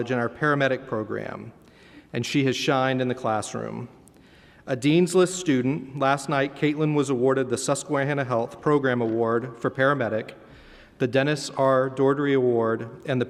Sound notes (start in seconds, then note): none